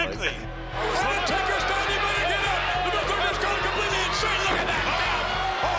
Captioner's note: commentator shouting